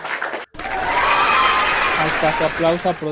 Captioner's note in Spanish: aplausos